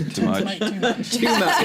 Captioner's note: laughter